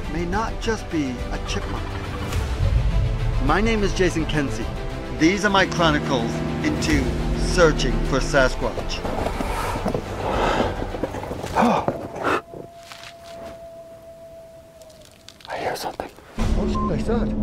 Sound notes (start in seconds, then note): 11.5 gasps; 16.6 beep